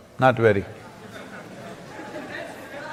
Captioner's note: laughter